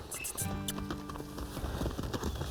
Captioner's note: squeaky kisses